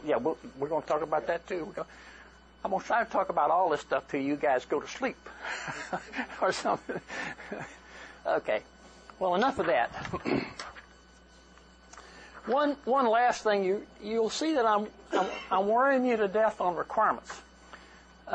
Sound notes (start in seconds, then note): 6.6 laughter